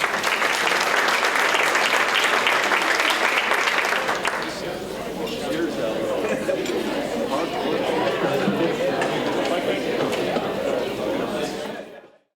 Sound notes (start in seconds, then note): 0.0 applause; 4.4 general chatter